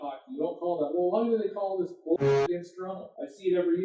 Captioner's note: goal horn sound playing